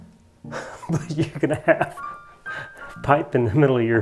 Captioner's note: laughs